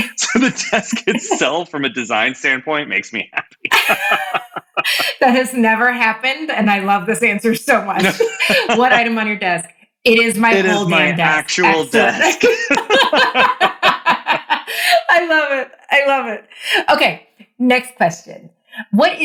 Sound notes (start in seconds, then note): 3.0 laugh; 11.6 both laughing